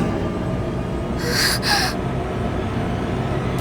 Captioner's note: gasp